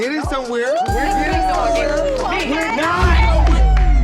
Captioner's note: friends cheering